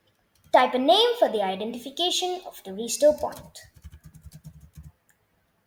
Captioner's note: typing sounds